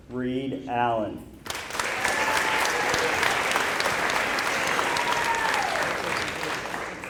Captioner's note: applause